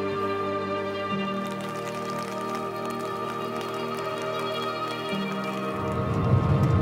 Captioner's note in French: pluie